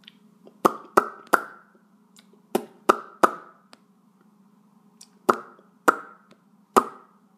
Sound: popping sounds

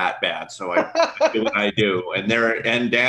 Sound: laughing

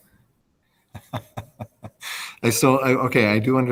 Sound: laughs

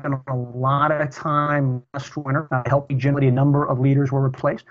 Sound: audio corruption

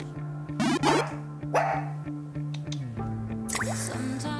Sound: barking

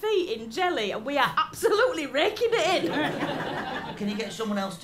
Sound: laughter

